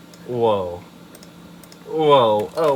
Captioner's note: more futile mouse clicks